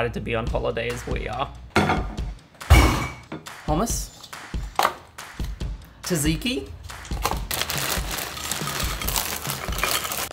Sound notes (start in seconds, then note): 2.7 glass clinks; 2.8 plate clinks; 7.1 bag crinkling